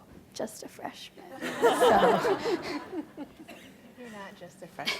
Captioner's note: audience laughs